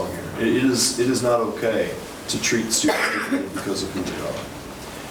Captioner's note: woman coughing